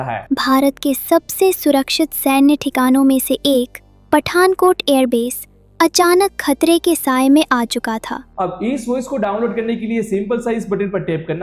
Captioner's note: second voice audio sample plays